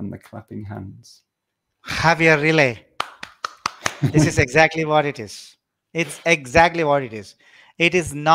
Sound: applause

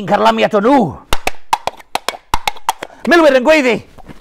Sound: clip clop clip clop

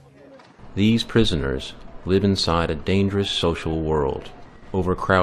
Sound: voice over

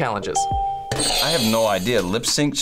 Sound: bell rings; buzzer rings

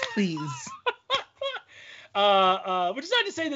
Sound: laughing

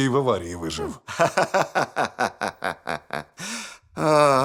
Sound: laughing; sighs

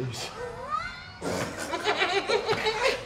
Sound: laughing

